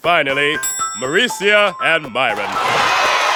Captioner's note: cheering